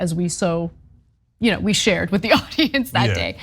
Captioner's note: laugh